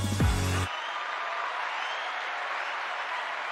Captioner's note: applause